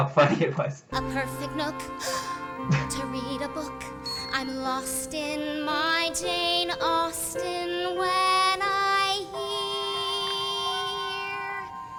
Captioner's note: gasps